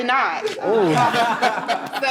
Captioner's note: laughter